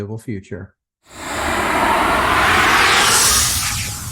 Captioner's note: logo swooshes